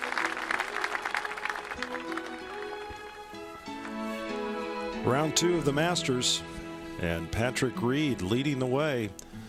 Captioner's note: applause